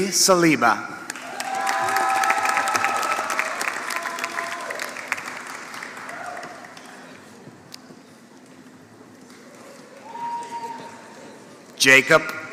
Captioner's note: applause